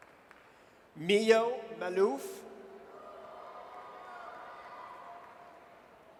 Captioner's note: audience cheers